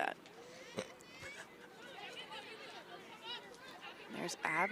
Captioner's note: chuckles